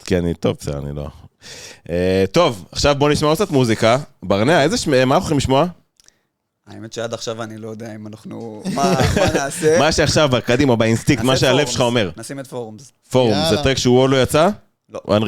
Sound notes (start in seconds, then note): 8.3 laugh